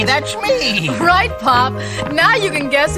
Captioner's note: laughing